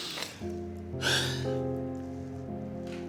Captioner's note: sighs